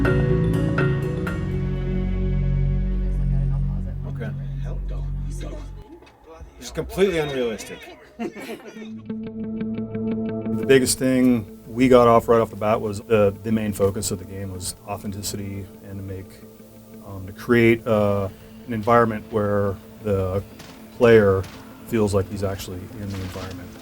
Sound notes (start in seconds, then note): 2.8 indistinct conversations; 7.6 laughter